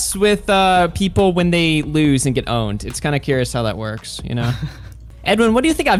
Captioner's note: laughs